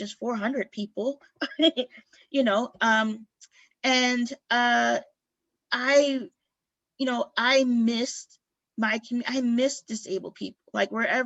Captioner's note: laughter